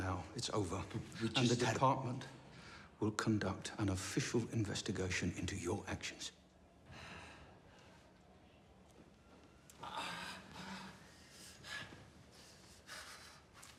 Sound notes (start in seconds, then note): 9.5 Palle groans and pants